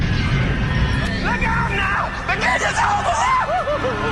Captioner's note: Възкликване и скърцане